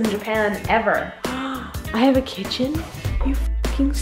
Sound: gasps

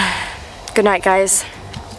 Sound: sighs

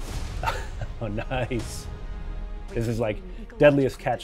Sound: chuckles

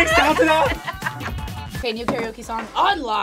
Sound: both laugh

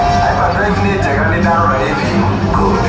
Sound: Nien Nunb in native language

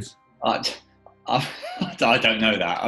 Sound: laughs

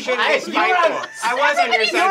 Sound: laughter

